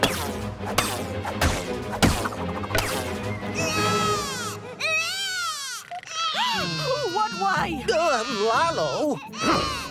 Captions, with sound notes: [crying] Who? What? Why? Lalo?